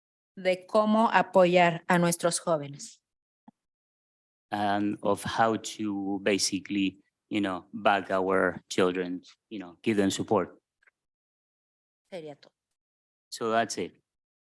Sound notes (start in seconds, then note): 0.1 speaking in Spanish; 12.6 speaking in Spanish